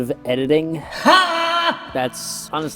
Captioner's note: editing , reverbed